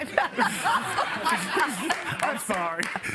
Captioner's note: laughter